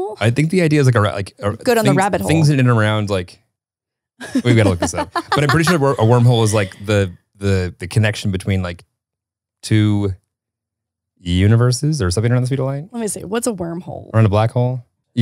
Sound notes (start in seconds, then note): 4.2 laughing